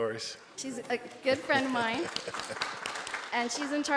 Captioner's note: board members clapping